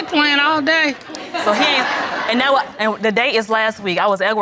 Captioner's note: audience laughs